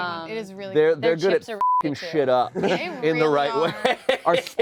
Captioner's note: beep